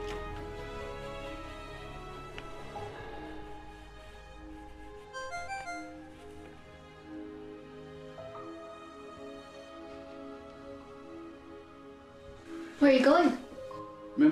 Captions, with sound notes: (device chimes) - Where are you going?